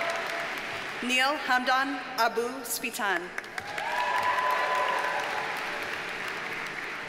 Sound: audience cheers and applauds

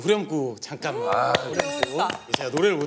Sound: clap Clap

